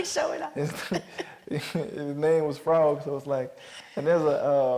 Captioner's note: laughs